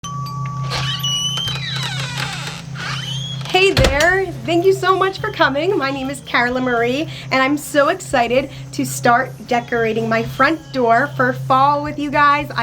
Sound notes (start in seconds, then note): 0.0 doorbell rings; 0.4 door creaks